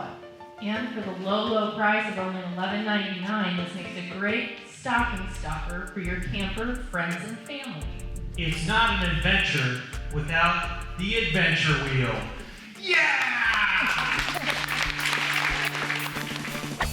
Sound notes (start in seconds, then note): 12.9 all applaud; 14.9 upbeat music